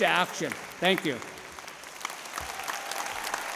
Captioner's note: applause